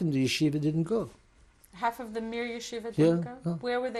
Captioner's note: non-english